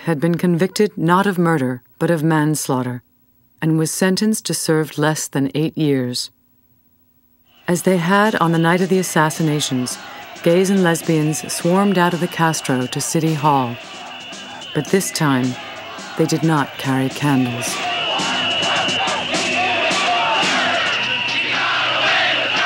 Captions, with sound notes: and was sentenced to serve less than eight years. As they had on the night of the assassinations, gays and lesbians swarmed out of the Castro to City Hall. But this time they did not carry candles. (whistles blaring) (crowd shouting) - [Crowd] He got away with murder, he got away with murder.